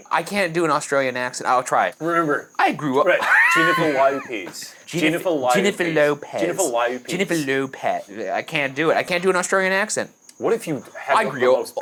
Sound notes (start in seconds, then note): 3.0 laughs